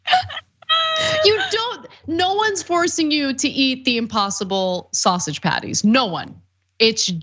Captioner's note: laugh